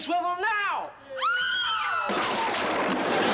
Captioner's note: shrieking